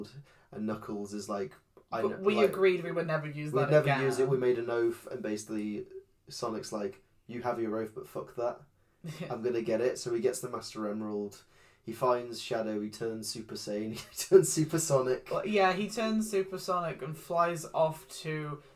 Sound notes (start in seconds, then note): 14.2 laughs